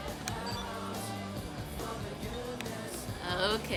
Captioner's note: phone beeps